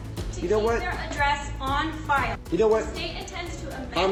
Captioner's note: arguing